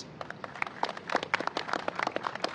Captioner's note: applause